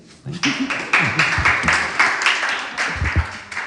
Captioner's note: audience claps